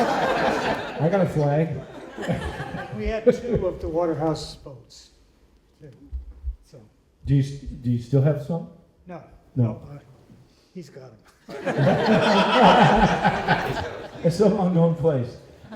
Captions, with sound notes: I got a flag. We had to go up to Waterhouse boats. Do you still have some? No. No. He's gone. [laughter] It's an unknown place.